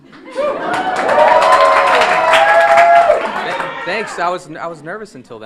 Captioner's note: audience cheering and applauding